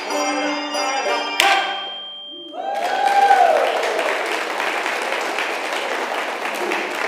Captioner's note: congregation cheers